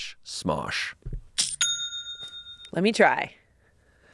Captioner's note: cash register rings